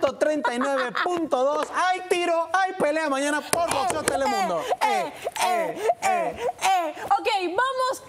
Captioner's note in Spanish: risas; risas